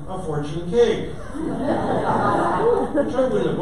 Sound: audience laughter

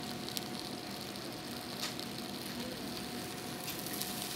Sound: food sizzling

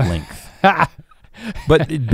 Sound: laughs

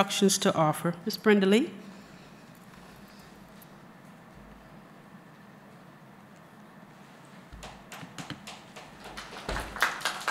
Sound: applause

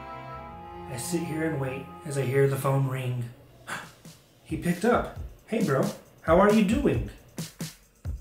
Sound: gasp; happy music

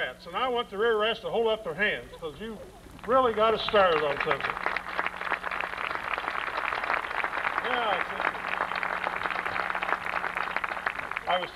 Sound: applause

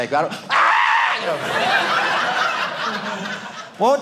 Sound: audience laughing

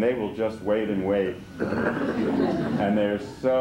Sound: laughter

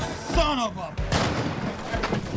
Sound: adventure music; gun fires

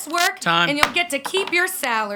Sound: gavel bangs

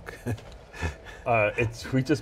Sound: laughing

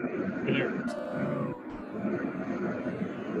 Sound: sighs

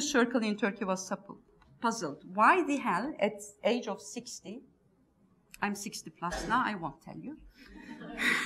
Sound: laughs

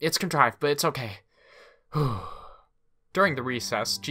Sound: takes a deep breath in and out

